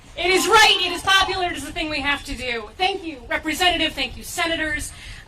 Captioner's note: cheers